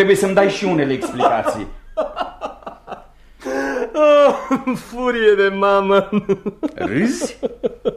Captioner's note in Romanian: Râsete